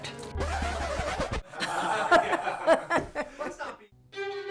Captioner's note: all laughing